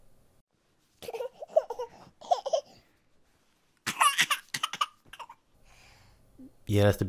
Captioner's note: sound of baby crying